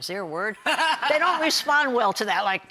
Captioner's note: laughing